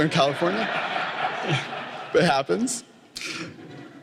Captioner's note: laughter